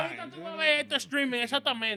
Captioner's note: speaking In Foreign Language